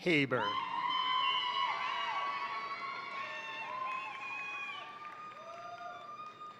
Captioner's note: crowd cheering; crowd applauding